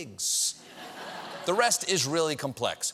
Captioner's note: laughter